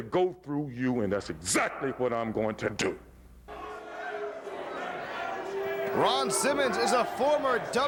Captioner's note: crowd chatter